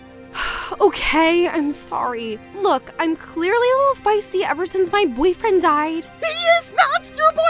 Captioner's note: sighs